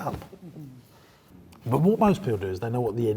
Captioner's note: laughing